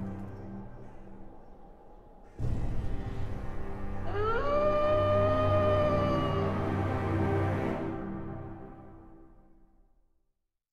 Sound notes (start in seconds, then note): 0.1 fire fades, wind keeps howling; 4.0 wolf howling